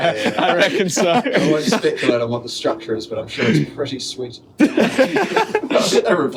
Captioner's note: laughter